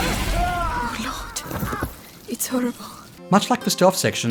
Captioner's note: guard screams as he dies